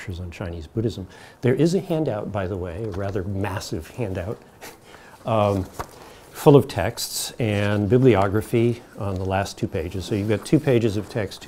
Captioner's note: chuckles